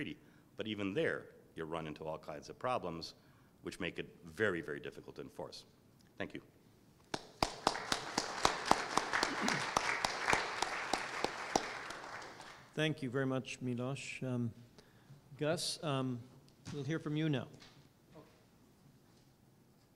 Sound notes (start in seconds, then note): 7.1 applause